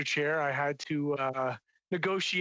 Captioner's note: speaking French